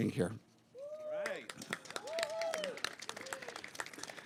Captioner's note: applause